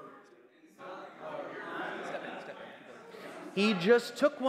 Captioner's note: crowd noise